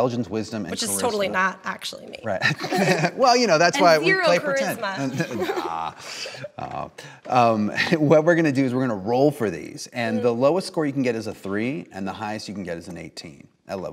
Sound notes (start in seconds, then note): 2.3 laughter; 4.4 laughs